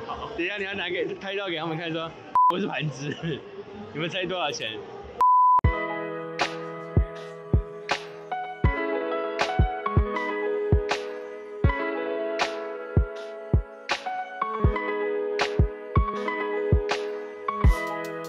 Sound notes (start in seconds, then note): 2.3 beijing dialect